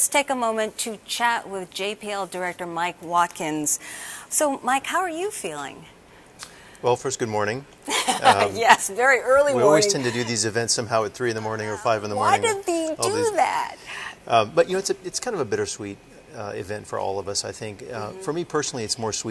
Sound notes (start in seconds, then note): 7.9 laughs